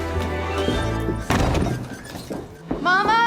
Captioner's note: door slams